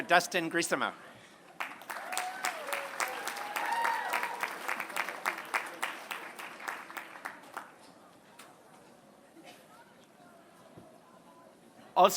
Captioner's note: applause